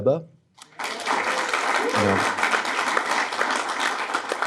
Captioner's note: audience clapping